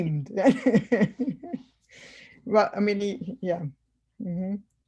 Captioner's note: laughs